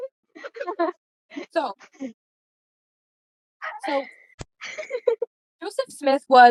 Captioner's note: giggle; more laughter